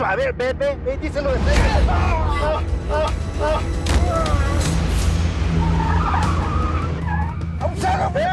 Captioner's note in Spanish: Gritos